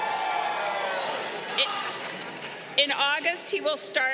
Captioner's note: crowd cheering